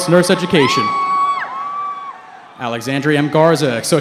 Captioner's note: cheering